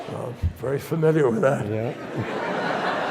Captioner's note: audience laughs; chuckles